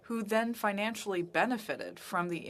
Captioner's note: speaking French